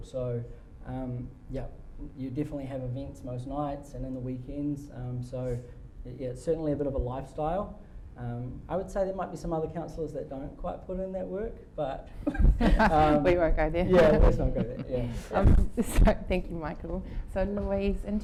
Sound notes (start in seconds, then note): 13.8 laughing